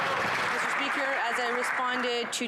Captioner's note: some Applause